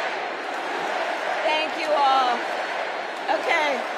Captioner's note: crowd chanting